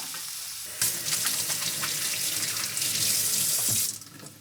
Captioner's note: splashing